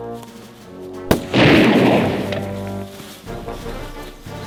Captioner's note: gunshot bangs